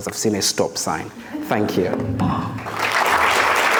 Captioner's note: audience chuckles; audience clapping